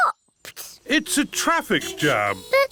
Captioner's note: horns toot